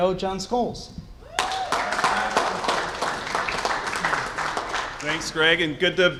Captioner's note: cheers and applause